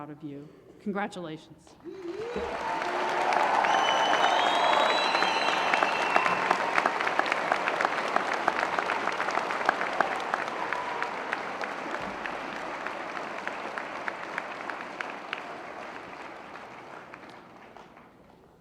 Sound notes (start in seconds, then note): 0.6 applause